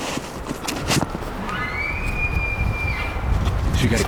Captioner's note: caller bugling